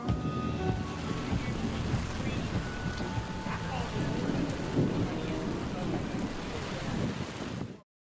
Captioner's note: rain storm